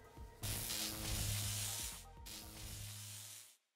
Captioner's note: electric buzz